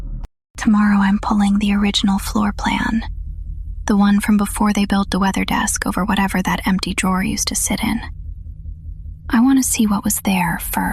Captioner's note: whispers